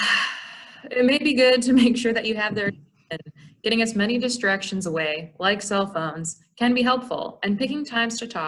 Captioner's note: sigh